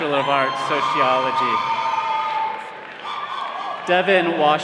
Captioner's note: all cheering